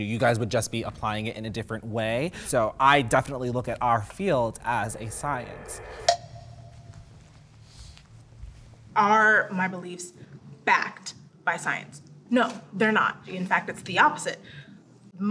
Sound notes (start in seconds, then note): 5.7 suspenseful echo; 6.5 rustling footsteps